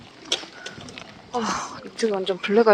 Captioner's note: sigh 222